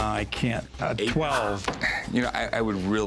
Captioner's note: sighs